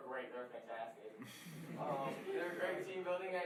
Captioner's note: laughing